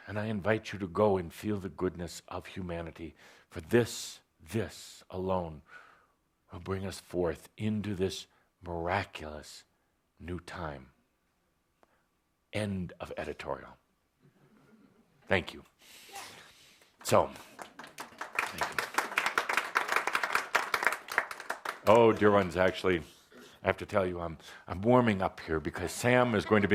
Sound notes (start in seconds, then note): 17.0 applause